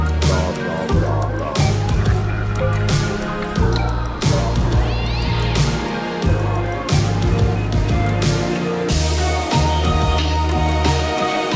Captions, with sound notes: - Blah, blah, blah, blah. (police sirens wailing) (cat yelps)